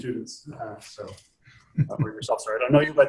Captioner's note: audience member chuckles